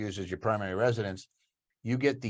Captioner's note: none